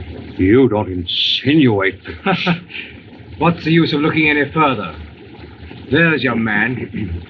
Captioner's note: laughs